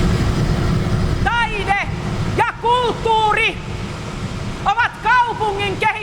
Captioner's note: industrial ambience; yelling